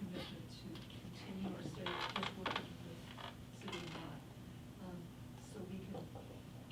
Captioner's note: faintly speaking